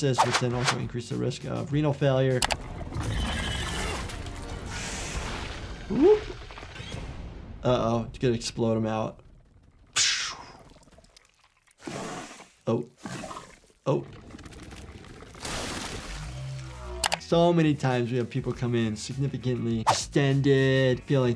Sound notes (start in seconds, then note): 10.2 imitates explosion; 11.8 creature sputtering